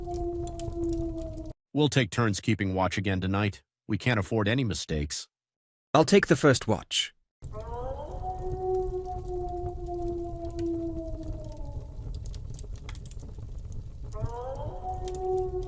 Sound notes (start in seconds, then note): 7.5 wolf howling; 9.9 fire crackling